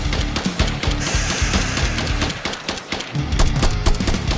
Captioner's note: scorpion hisses